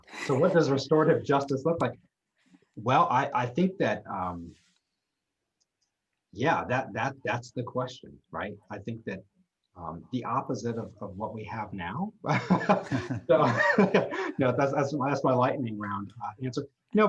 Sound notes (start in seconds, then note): 12.3 laughs